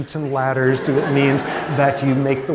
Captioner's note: laughter